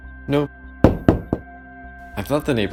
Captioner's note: knocking